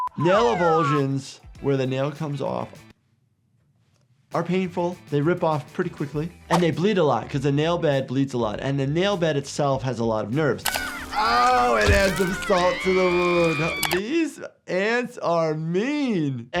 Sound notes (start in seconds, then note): 13.3 Sniffles screaming